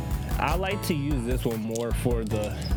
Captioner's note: none